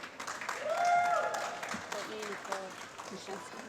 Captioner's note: applause